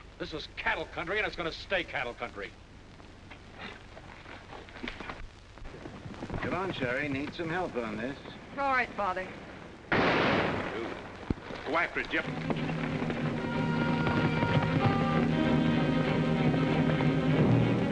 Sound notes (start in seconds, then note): 9.9 gunshot; 12.2 dramatic music